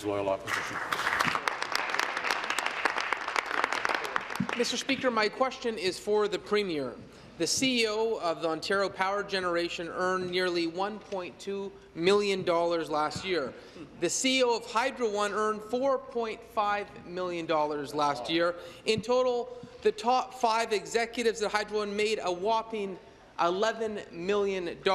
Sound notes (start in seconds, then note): 4.7 applause